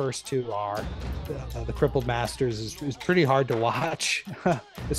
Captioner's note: laughs